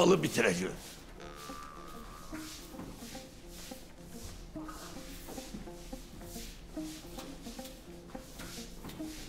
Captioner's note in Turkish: Süpürge sesi; Müzik - Neşeli